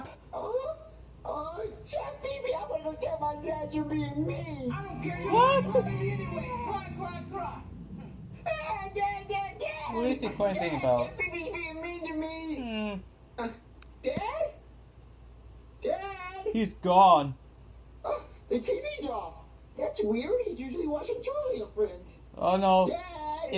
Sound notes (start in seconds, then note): 0.1 whimpers; 8.3 moans; 17.5 exclaims